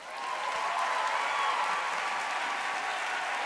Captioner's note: applause